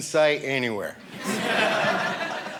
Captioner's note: audience laughing